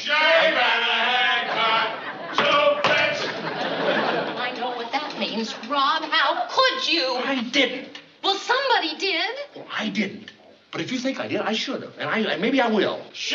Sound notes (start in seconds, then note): 1.0 singing; 2.3 knocking